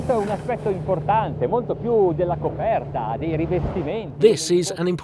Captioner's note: speaking in foreign language